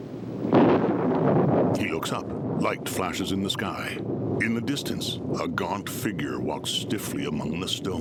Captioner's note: thunder cracking